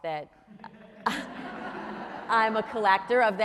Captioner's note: audience laughing